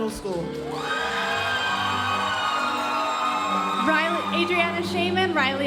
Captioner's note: audience cheering and applauding